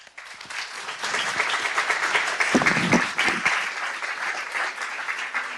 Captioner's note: clapping